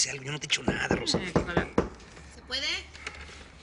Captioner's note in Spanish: Toques en la puerta